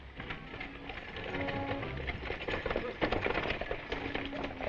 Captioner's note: hooves thudding